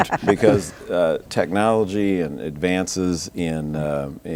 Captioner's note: laughing